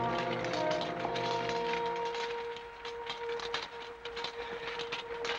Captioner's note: sabers rattling